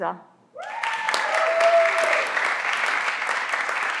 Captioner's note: everyone claps